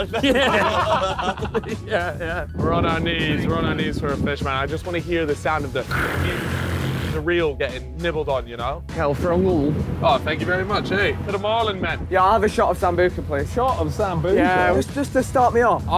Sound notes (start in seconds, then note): 0.0 laughing; 6.0 mimics reel whirring